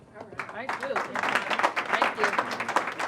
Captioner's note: applause